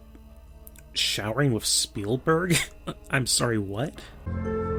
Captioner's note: chuckle